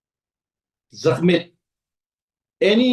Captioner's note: tibetan